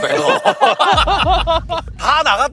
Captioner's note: giggling